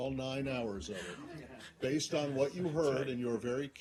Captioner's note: laughter